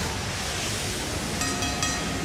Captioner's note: bell ringing